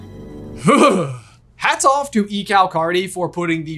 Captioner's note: shuddering